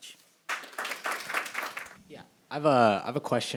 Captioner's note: audience applauding